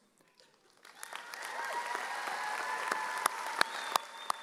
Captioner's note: audience cheering